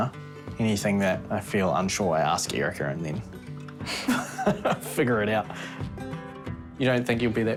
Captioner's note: laughs